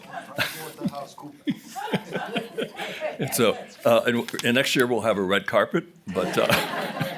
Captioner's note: laughs